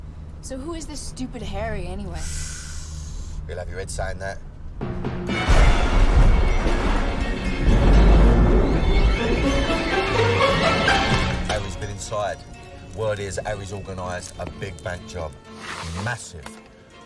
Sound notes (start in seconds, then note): 2.5 sighs; 5.3 thunder rumbling